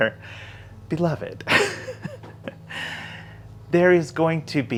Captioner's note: laughs